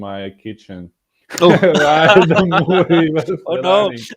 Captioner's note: laughing